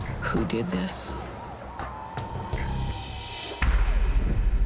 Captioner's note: sirens wailing